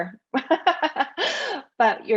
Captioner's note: laughs